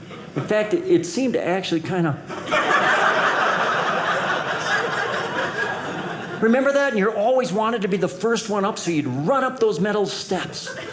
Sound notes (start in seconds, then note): 2.3 audience laughing